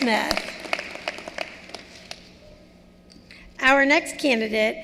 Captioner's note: cheering and applause